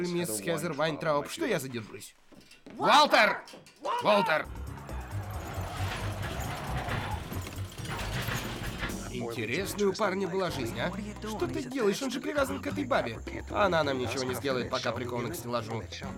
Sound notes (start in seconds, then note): 4.4 tires screeching, metal creaking